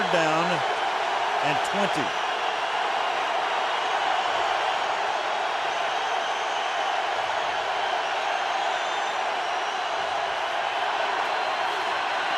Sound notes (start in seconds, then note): 2.7 crowd cheering